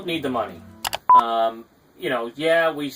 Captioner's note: click and beep